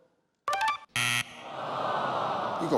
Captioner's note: buzzer rings; audience groaning